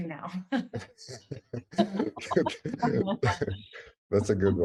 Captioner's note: chuckle